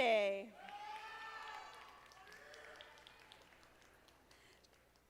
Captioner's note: audience applauding